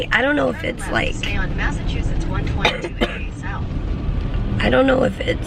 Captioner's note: GPS talking